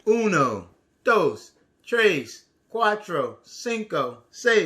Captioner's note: speaks foreign language